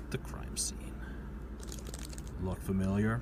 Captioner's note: plastic bag noises